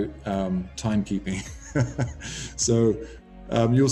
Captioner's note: laughs